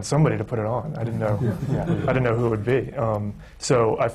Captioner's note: laughter